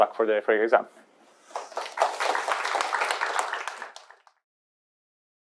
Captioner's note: applause